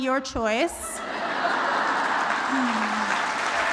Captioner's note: applause